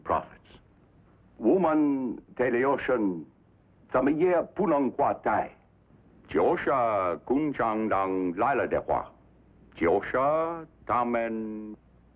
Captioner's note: speaking Chinese